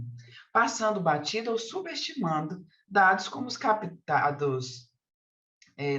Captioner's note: continues speaking in Portuguese